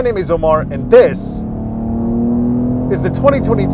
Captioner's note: engine roaring